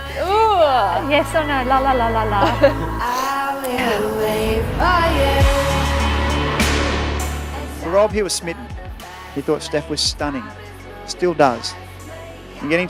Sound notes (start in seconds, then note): 2.3 both laughing and sniffling